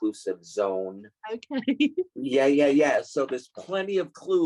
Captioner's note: laughs